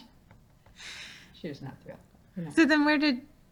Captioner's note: laughing